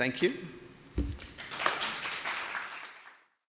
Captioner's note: applause